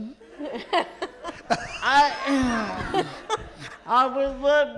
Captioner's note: light laughter